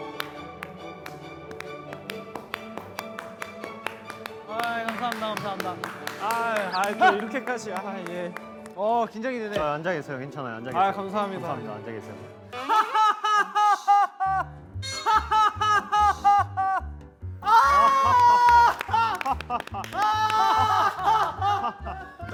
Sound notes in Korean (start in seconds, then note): 14.8 웃음 급발진